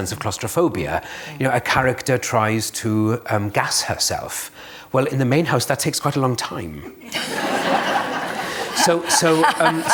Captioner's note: laughter